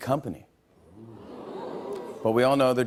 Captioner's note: audience oohs